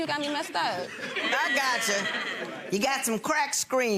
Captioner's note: gallery laughs